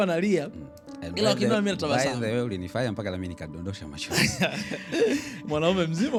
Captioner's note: laughter